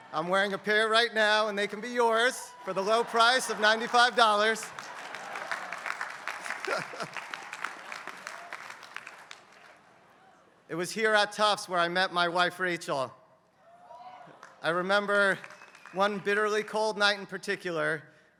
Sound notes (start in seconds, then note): 5.4 applause